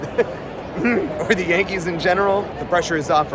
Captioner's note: ahem